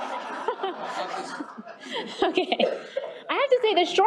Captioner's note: laughs